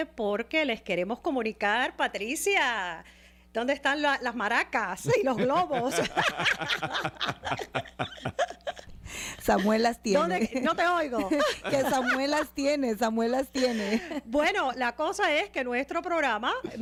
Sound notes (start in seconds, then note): 2.8 Hablando ingl\s